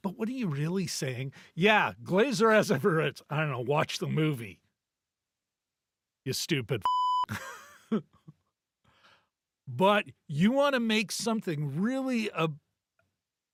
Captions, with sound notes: "But what are you really saying?" Yeah, Glazer as ever, it's, I don't know, watch the movie, you stupid (beep) (laughing) But you want to make something really,